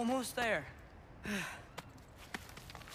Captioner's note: sigh